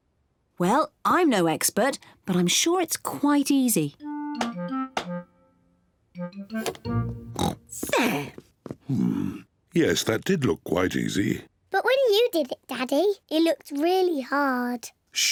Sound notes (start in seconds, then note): 7.2 oinks